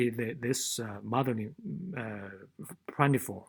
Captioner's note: speaking faintly